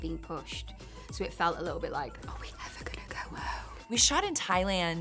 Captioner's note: whisper